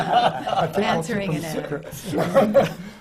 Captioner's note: laughter